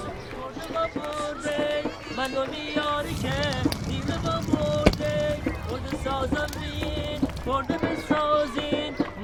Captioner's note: singing, roar of chatter